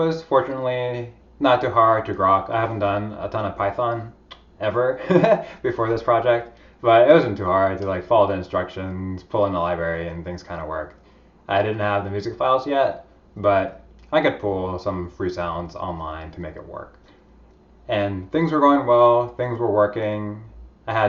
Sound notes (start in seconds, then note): 5.0 laughs